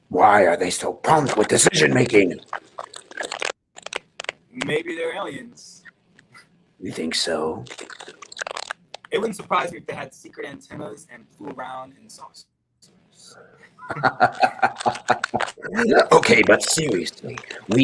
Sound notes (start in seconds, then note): 13.8 Dominic laughs